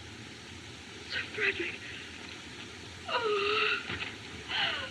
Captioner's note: moans